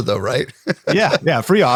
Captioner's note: laughs